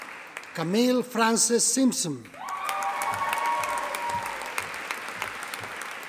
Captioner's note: audience applauding